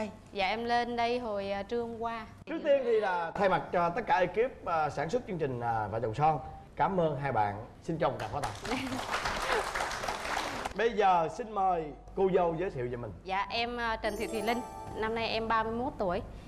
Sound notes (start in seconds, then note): 8.2 applause